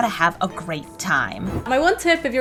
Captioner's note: air whooshing